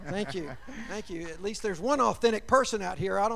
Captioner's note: laughter